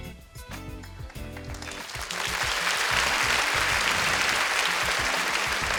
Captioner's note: audience applauding